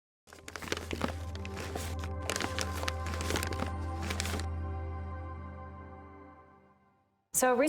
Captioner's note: paper crinkling